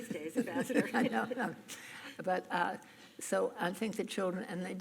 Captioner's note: laughs